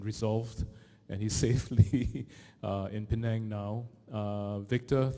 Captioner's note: chuckles